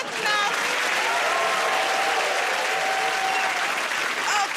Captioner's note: cheers and applause